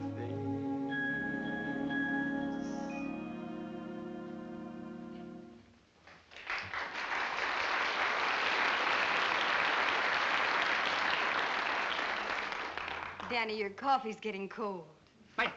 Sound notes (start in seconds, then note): 6.0 applause